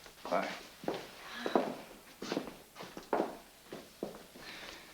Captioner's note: Sugar sighs